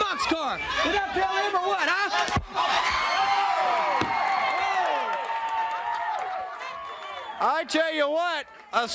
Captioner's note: crowd cheering